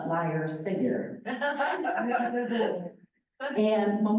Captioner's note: laughter